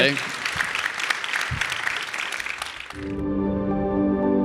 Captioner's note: audience applauding; bright music